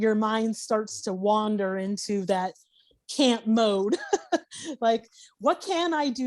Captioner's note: laughing